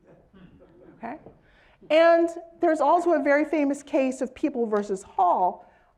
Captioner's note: laugh